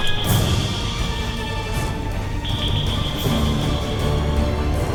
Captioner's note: pinging